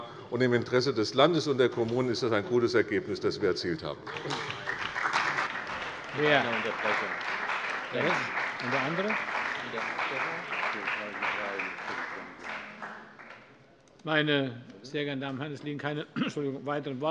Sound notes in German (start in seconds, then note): 4.0 Beifall bei Abgeordneten der CDU und des BÜNDNISSES 90/DIE GRÜNEN